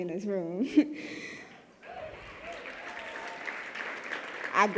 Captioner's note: cheering and clapping